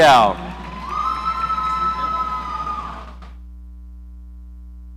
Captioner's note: audience cheering